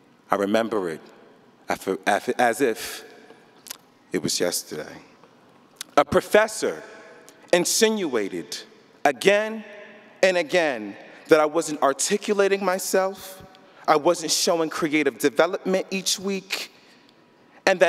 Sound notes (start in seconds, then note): none